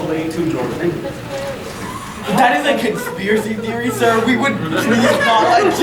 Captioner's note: audience laughing